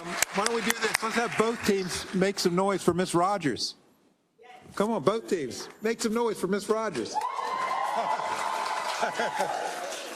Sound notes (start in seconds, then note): 6.9 applause